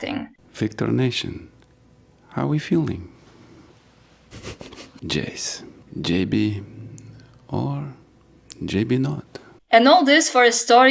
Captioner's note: laughs